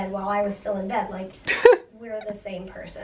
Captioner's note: chuckling